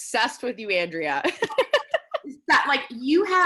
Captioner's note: laughing